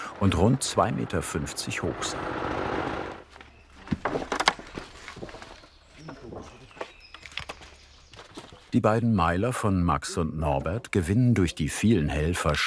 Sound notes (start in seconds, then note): 3.7 creaking, rumbling; 6.0 birds chirping